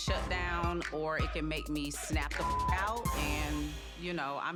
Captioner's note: beep